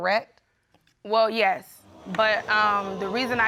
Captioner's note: audience exclaiming